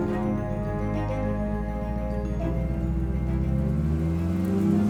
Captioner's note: car engine roaring